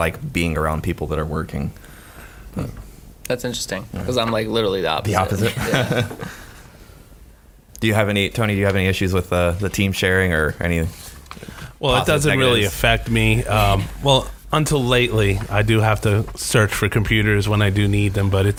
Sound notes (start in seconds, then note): 5.1 laughing